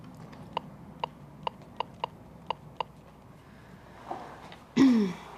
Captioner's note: buttons clicking; Marie clears throat